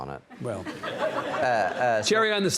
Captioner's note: audience laughs